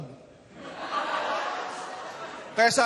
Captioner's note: laughter